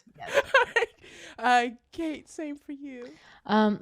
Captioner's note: laughter